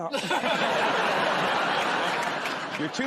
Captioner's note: laughter